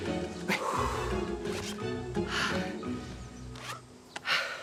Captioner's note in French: respirant difficilement